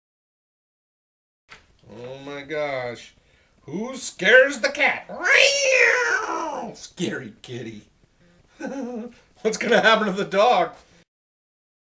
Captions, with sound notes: Oh my gosh, who scares the cat, (cat sound). Scary kitty (laughing). What's gonna happen to the dog?